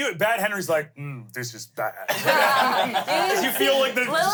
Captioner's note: everyone laughs